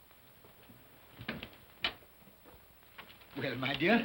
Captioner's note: door opens